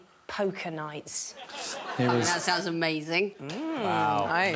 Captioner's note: audience laughing